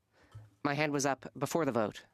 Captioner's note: speaking French